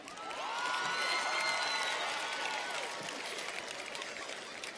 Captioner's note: audience cheers and applauds